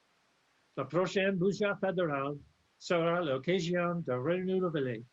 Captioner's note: speaks French